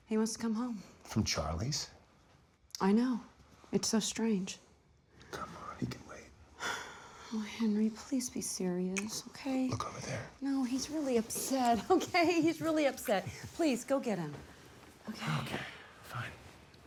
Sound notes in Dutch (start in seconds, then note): 6.4 zucht